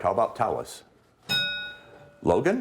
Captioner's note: ding